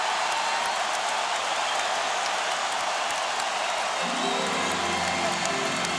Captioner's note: cheering and applause